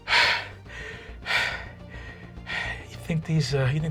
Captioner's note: panting